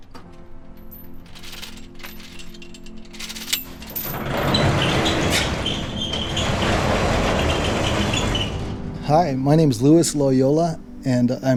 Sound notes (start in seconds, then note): 0.8 chain rattling; 3.8 door squeaking